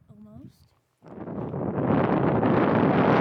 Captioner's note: wind blowing